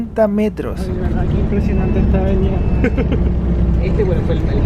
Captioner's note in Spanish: risas